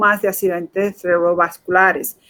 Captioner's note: speaking in Foreign Language